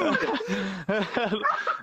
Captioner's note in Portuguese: Risos